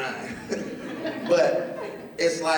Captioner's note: laughter